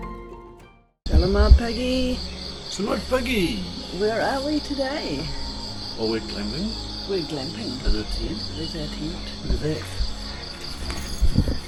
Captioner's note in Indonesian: suara jangkrik